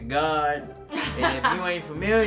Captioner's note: laughing